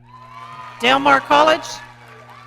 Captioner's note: audience cheering